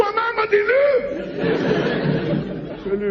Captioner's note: laughs